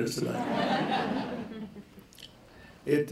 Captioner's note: laughter